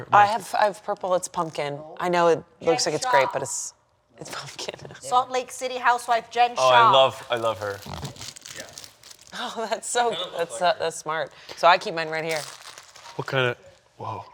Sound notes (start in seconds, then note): 4.5 laughing; 9.8 stammering; 12.2 plastic crunching